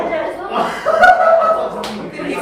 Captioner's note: guffaws